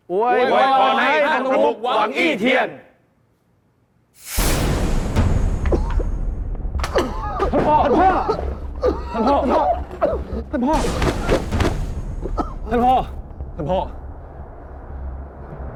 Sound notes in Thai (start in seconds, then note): 6.8 เสียงไอ